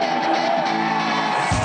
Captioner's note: upbeat music; crowd cheers